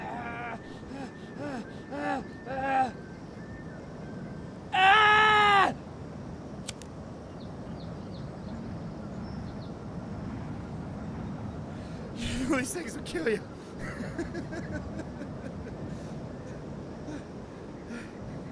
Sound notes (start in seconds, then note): 4.8 Ash screams; 6.6 lighter clicks; 12.2 laughs